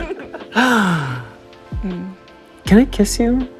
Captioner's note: sighs